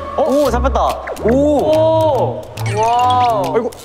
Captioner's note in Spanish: flap flap